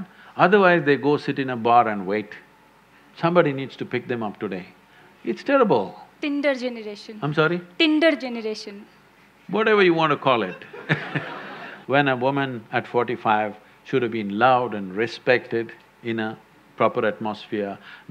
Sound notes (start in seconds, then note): 10.4 laughter